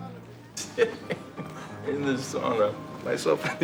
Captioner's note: laughs